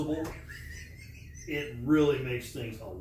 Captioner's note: laughing